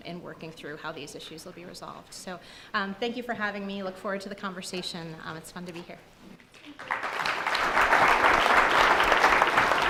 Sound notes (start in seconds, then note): 6.7 audience applause